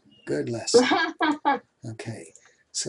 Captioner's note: giggles